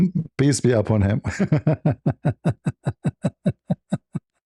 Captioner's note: laughter